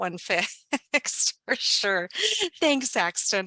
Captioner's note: laughs